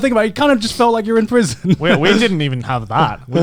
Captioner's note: laughs